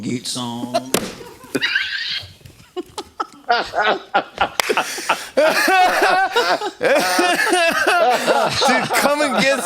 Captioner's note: laughter